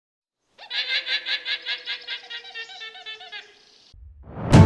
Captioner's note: animal vocalizing